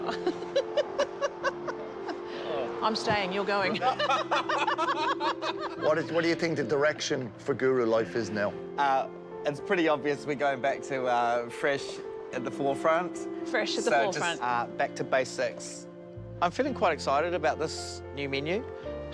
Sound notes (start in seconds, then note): 0.0 laughs; 3.7 laugh